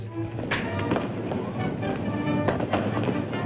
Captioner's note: fighting noises